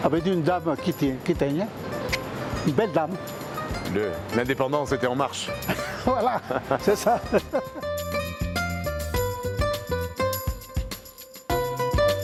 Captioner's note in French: rires